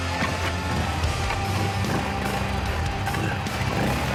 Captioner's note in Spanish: Ruido de la moto